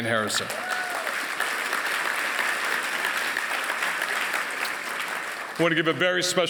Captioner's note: applause